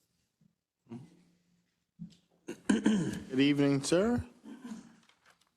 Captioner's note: cough